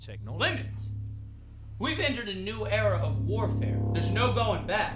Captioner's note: shouting